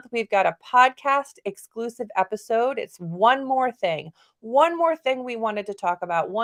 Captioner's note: none